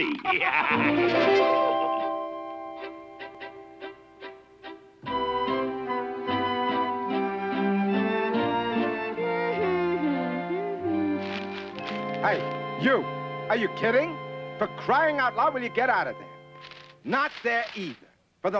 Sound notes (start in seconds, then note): 0.0 laughing; 1.1 chiming music; 2.4 light orchestral music; 9.1 humming